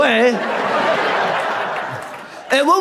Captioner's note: audience laughs